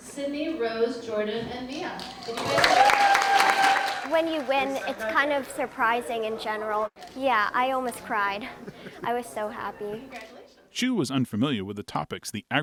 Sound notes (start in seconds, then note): 2.0 crowd cheering and clapping